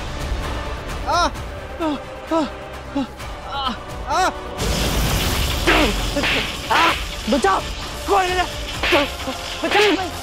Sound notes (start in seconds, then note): 2.9 sighs; 8.0 slaps